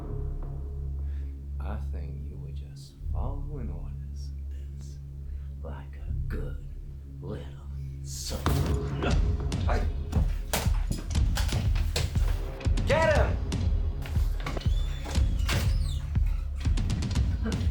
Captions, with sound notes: I think you would just following orders, this like a good little servant- (men rumble) Get him! (dramatic music)